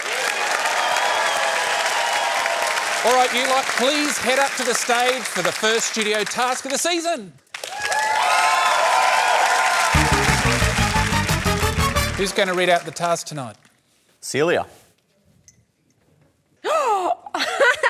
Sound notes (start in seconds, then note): 0.0 cheering, applause; 16.6 gasps, laughs